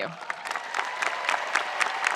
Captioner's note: spectators applauding; spectators cheering